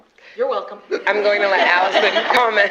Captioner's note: laughter